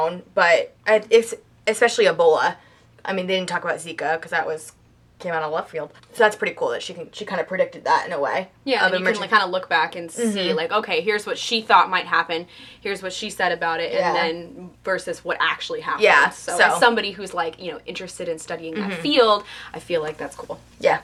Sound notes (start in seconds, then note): none